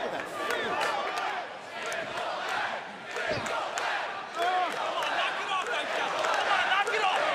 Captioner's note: crowd cheering